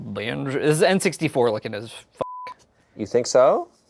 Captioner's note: beep